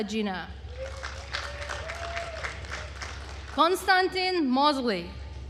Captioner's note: attendees cheering and applauding